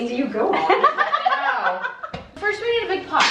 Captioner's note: laughter